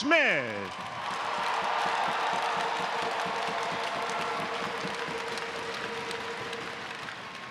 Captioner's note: applause